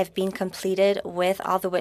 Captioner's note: speaking French